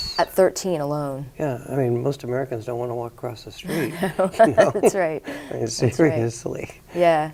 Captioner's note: both laugh